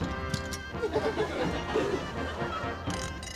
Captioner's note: laughter